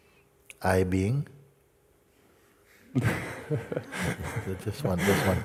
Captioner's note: Lachen